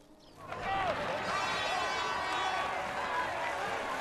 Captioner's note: applause